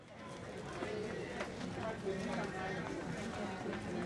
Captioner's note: audience chattering